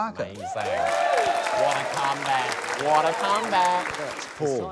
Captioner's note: cheering, applause